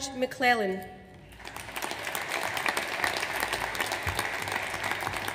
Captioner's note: audience applauds